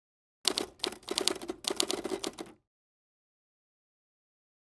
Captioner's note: keyboard clicking